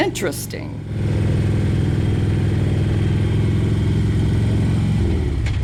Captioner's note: motorcycle engines revving